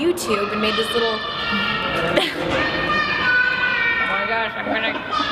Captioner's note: child yelling in background